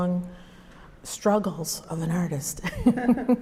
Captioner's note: laughs